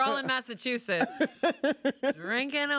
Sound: laughs

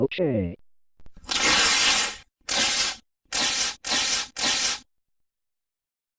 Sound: paper ripping

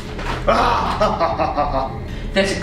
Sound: laughs

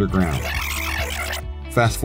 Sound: tape fast-forwarding

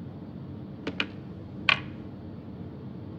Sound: cell phone put down

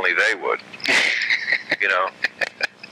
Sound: laughing

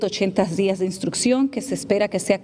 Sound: speaking spanish

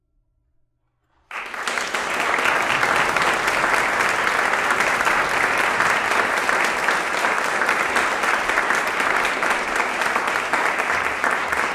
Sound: applause

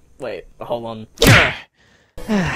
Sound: punch

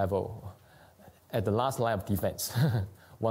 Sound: laughs

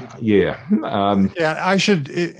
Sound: laughing

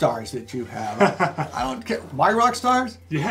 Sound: laughter

